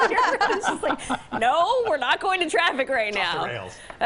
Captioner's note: laughter